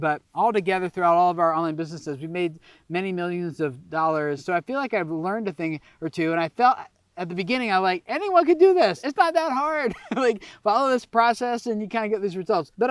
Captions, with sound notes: but altogether throughout all of our own businesses, we've made many millions of dollars. So I feel like I've learned a thing or two. And I felt at the beginning, I like anyone could do this. It's not that hard(giggles) like follow this process and you kind of get these results,